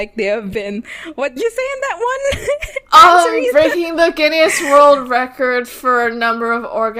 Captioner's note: laughing